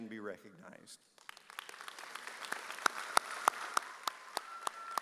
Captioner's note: audience cheers